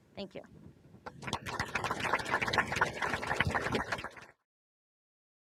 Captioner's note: applause